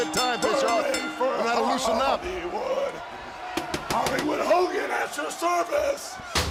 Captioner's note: bell ringing